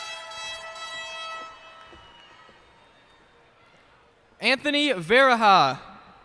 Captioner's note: cheers and applause